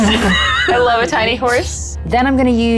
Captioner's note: chuckling